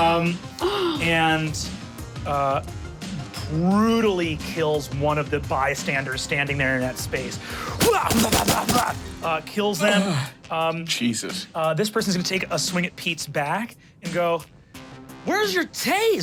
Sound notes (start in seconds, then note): 0.6 guffaws and gasps; 7.8 imitates weapon hits and blows